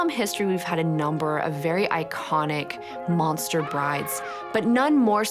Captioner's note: bride screams